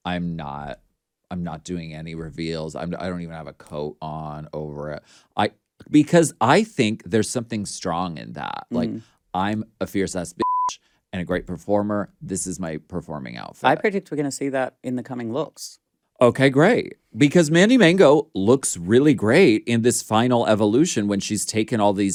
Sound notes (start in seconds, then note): 10.4 beep